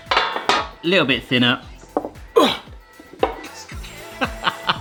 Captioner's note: groans